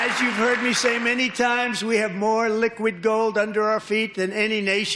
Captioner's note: applause